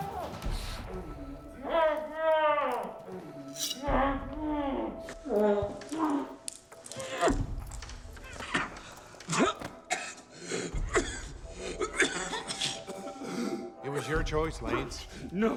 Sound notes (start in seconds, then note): 0.0 muffled yelling; 9.7 coughing; 9.9 gasping